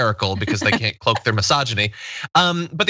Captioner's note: laugh